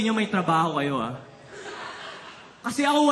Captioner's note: laughter